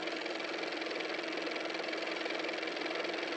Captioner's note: car motor